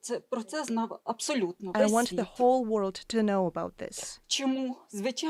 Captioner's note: speaking alternate language